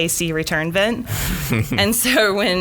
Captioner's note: laughing